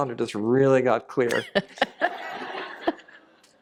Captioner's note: laughter